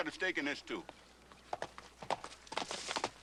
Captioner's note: galloping